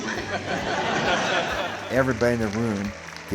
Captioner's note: audience laughs